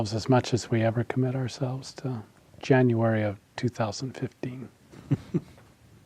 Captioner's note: laughs